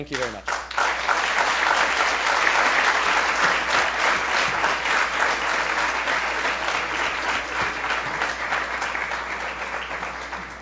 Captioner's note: applause